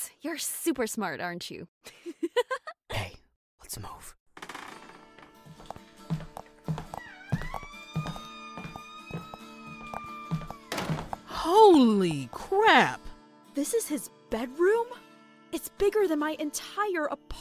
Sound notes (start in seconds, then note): 4.5 whispering; 8.8 footsteps